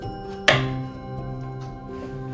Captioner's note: knife thuds